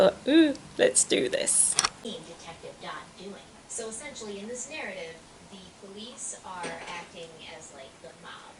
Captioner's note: sound of TV in background